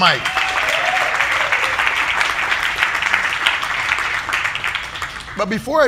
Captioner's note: audience applauding